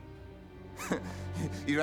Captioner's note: laugh